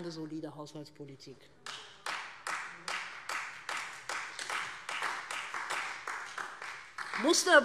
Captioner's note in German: Beifall Freie Demokraten und vereinzelt SPD